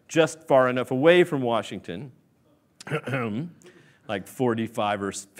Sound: coughs

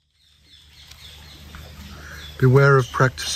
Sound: birds singing

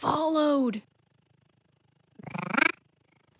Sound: crickets chirping; monster chattering

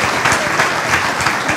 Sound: applause

